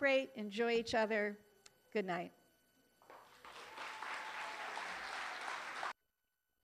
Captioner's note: applause